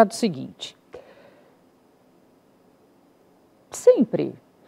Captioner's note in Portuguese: silêncio